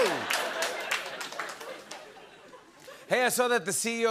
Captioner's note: laughter